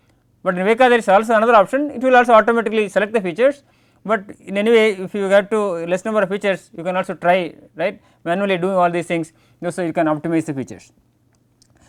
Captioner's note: click